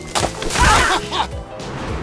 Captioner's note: all cry out in pain